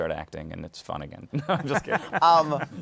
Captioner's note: laughs